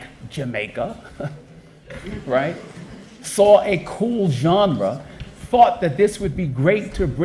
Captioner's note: chuckle